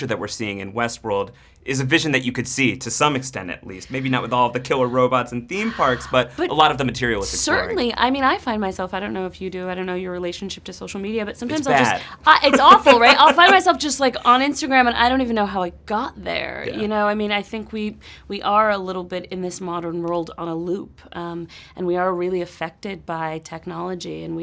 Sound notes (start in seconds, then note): 5.6 sighs; 11.5 laughs